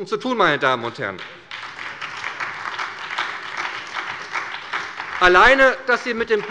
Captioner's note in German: Beifall bei der SPD